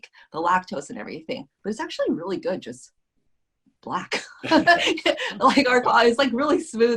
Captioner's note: laughs